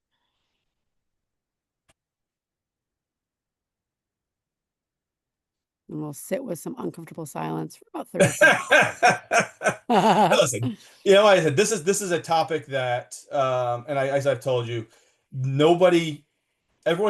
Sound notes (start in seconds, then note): 0.1 silence; 8.2 laughs